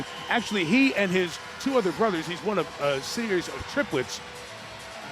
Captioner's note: audience cheering